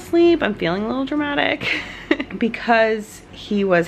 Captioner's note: laughs